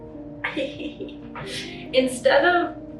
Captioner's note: laughs